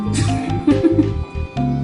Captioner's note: giggles